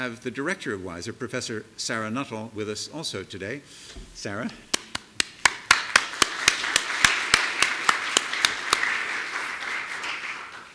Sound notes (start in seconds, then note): 5.2 audience applauding